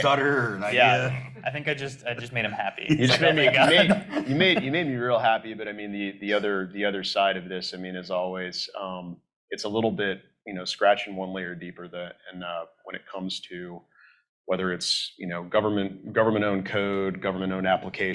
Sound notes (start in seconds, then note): 3.7 all laugh